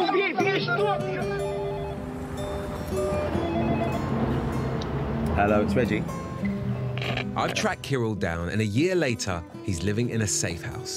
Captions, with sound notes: (gentle music) (phone ringing) Hello, it's Reggie. I track Kirill down, and a year later, he's living in a safe house.